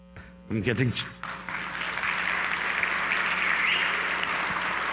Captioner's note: audience applause